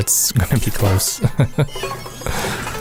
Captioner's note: haha